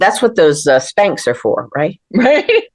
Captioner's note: laughter